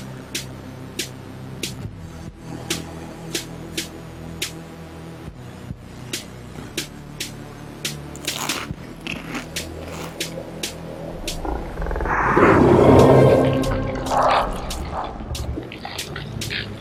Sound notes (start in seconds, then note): 8.1 crunching; 12.2 growls